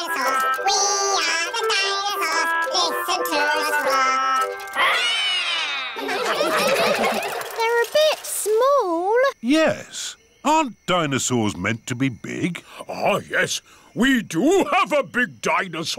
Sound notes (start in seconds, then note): 4.7 all roar; 5.6 all laughing